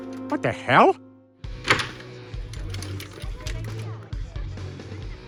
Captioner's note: people chattering